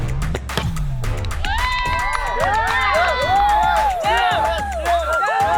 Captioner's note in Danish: klapper